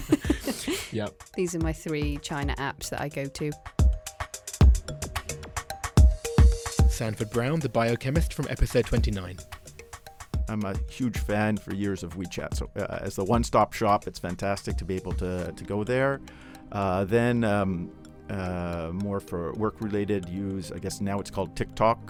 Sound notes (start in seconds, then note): 4.4 voiceover